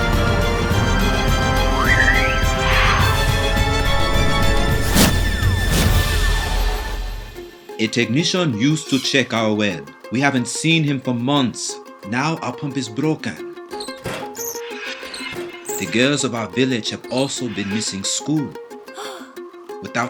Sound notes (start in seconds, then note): 0.0 dramatic music; 13.7 pump creaking; 18.8 gasps